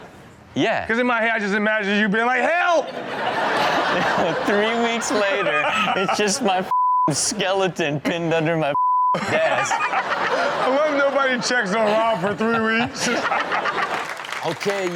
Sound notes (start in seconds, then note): 8.7 beep; 9.1 audience laugh; 13.1 audience continue to laugh; 13.4 audience clap